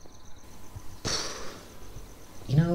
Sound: blows a raspberry

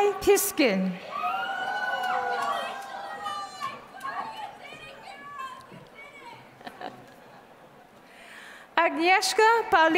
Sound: applause

